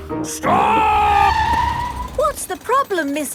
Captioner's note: tires screeching